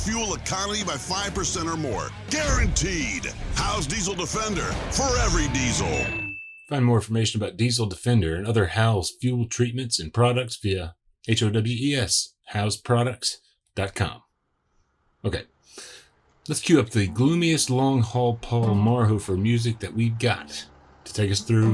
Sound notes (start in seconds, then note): 5.4 bell rings; 16.3 melancholy guitar music